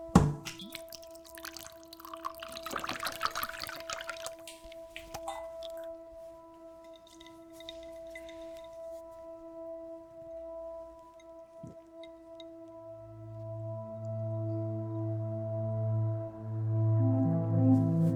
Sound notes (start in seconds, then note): 0.4 liquor splashing; 13.5 light dramatic music